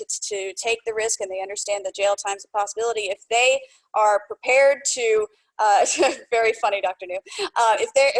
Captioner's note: laughter